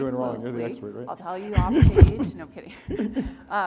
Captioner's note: laughs